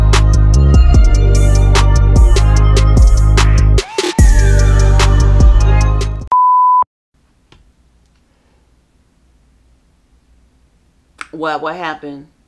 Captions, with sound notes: (upbeat music) (beep) What, what happened?